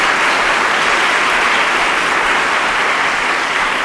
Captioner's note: applause